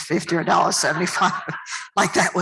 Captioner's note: laughter